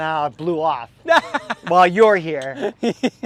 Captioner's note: laughing